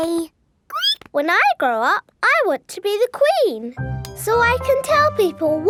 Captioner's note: squeaks